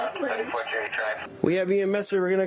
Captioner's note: radio chatter